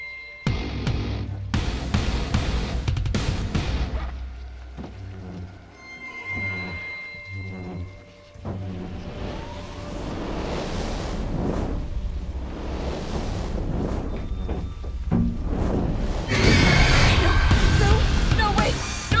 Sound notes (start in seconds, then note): 3.8 ghostly whispers; 11.1 ghostly screeching; 15.4 roaring